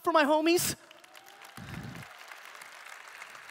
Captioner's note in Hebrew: תשואות